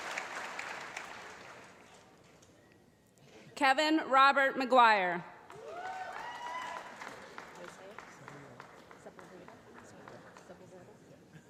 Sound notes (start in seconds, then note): 5.5 cheering